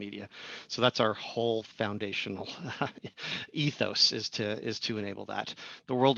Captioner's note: laugh